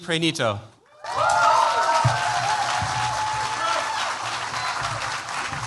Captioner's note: cheers, applause